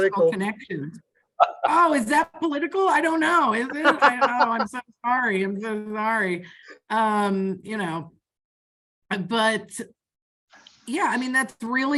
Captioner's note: laughing